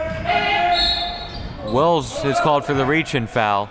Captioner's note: whistle blowing